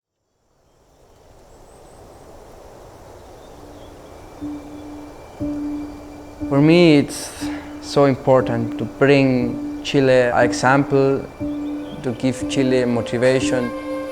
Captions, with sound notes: (birds chirping) (peaceful instrumental music) - For me, it's so important to bring Chile an example, to give Chile motivation.